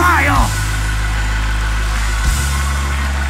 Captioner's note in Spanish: Aplausos y alabanza